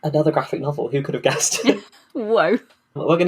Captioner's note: laughs